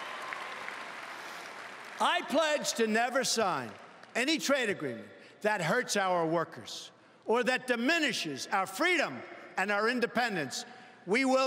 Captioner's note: cheering and Applause